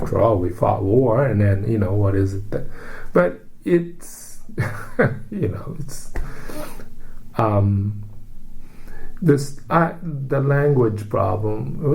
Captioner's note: laugh